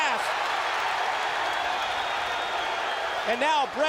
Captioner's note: applause